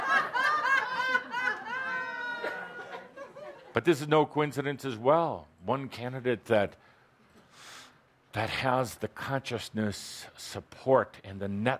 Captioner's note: more laughter